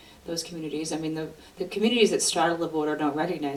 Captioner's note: none